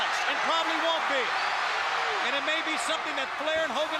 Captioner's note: crowd cheering